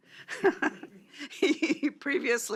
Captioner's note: chuckles